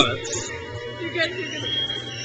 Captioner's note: crowd cheers